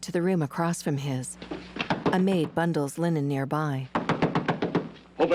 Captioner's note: sharp loud knocks